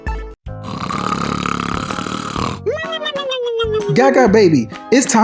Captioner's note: Gaga Baby snoring